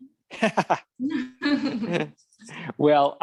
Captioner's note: laughing